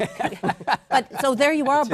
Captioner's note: laughter